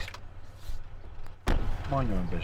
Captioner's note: door closing